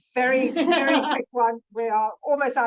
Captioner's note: attendee laughs